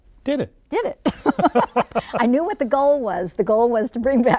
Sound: laughing

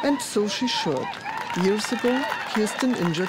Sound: crowd applauds and cheers

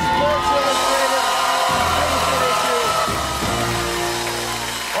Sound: cheers and applause

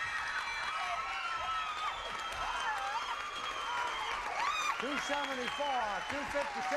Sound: audience applauding

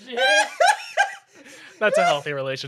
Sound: laughs

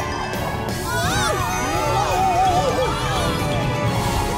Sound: screaming

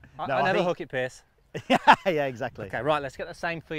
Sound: laughing

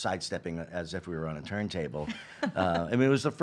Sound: laughing

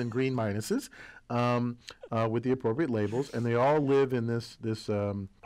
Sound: laugh

